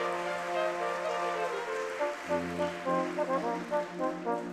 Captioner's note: audience clapping